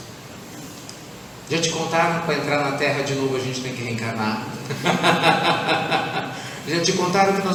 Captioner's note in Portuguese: risadas